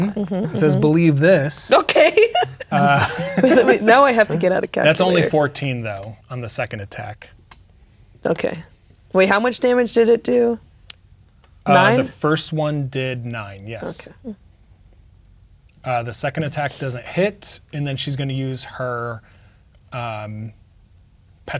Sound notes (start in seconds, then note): 1.7 laughing